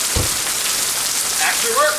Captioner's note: car door closes